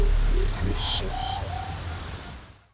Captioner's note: sound twanging